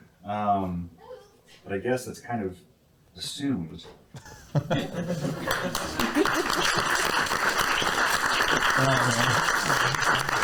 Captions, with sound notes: But I guess it's kind of assumed. [laughter] [applause]